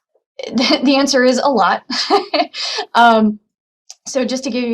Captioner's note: laughing